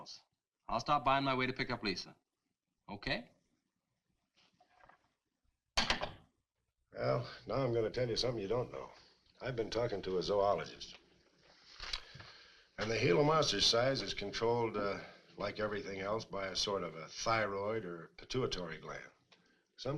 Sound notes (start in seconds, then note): none